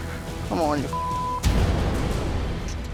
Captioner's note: sizzling